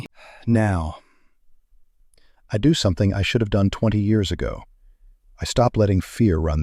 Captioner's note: sigh